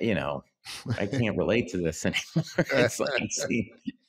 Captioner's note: laughs